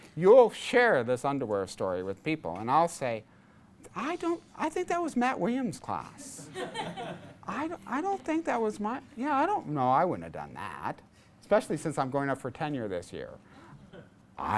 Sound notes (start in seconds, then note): 6.4 class laughs